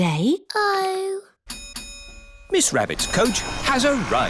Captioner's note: coach bell dings